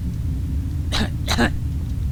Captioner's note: cough cough